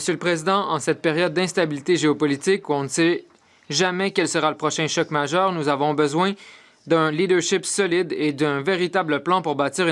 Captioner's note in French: voix de l'interprète